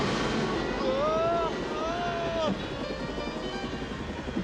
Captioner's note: yells